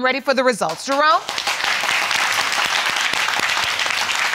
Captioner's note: audience applauding